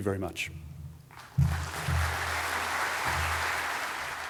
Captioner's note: audience applauding